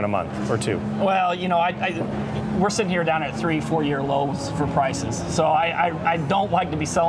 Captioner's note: French